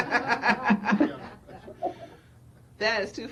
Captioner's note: panel laughing